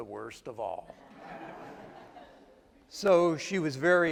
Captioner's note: attendees laugh